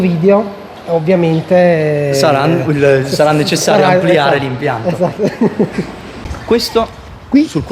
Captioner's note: laughs